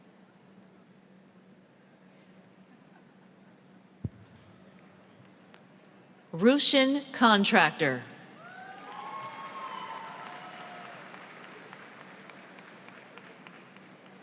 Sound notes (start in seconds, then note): 8.8 audience applauds